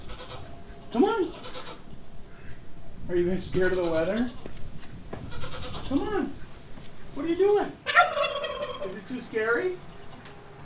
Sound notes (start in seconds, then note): 7.8 turkey gobbling